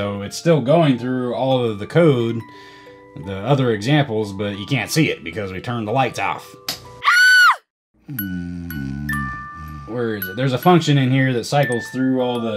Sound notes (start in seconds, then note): 7.1 click* - Lady screaming; 8.1 snoring